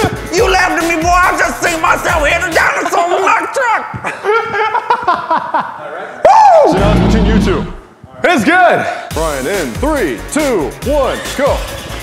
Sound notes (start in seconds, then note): 0.2 in weird accent; 4.0 laughter; 6.7 dino growls